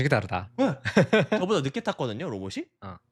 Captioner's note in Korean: 웃음